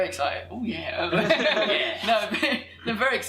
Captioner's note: laughs